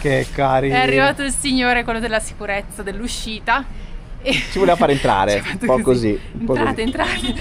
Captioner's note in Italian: risate